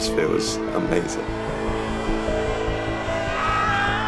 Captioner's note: crowd cheering